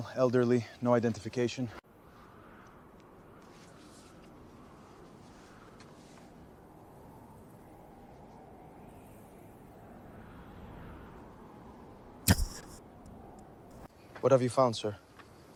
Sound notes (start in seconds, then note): 1.7 birds Chirping; 1.7 chuckles